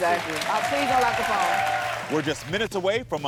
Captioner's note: audience cheering